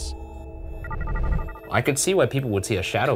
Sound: screen whirring

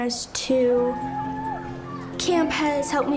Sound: campers cheering

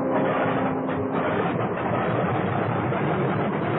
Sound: engines starting

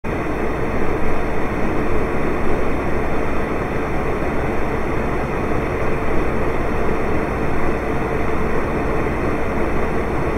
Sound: space heater white noise

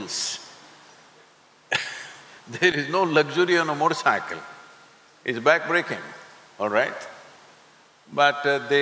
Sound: laughs

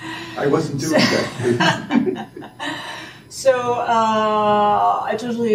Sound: laughing

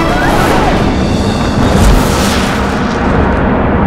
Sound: dramatic blasting

